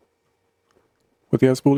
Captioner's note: silence